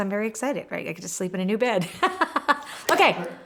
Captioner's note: laughs